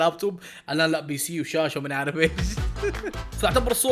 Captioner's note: chuckles